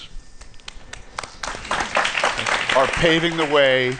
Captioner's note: applause